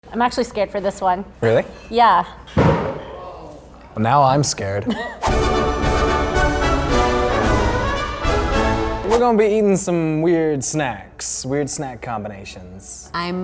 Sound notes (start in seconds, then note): 2.7 loud crash; 3.5 distant groan